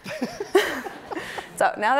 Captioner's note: everyone laughing